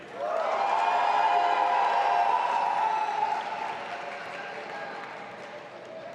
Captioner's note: audience applauding and cheering